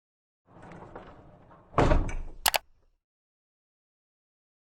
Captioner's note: latch clicks